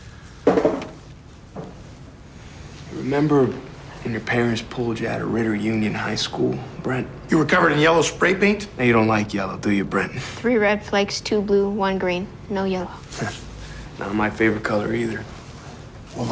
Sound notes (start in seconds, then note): none